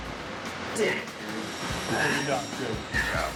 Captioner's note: grunting